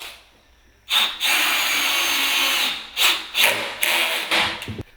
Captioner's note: drill whirring